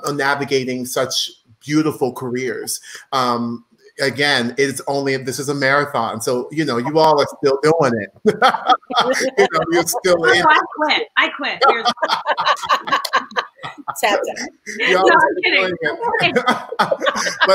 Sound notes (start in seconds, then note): 8.3 laughing; 12.1 all laughing